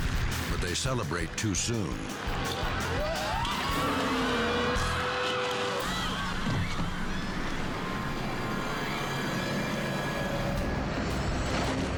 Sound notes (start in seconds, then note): 3.2 crowd screaming; 6.2 base jumper thumping; 8.6 suspenseful music